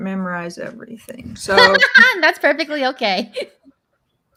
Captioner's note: laughs